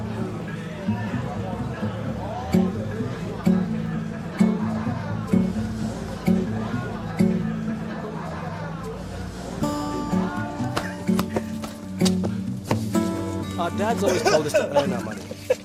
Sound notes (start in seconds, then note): 13.9 hearty laughter